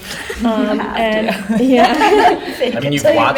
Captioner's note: laughter